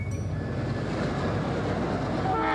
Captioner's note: train whirs; train hoots